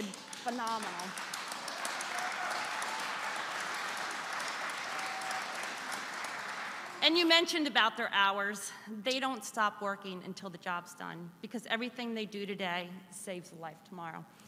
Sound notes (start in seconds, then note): 3.5 applause